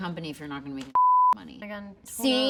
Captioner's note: beeps